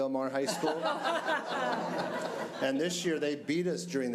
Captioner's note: audience laughing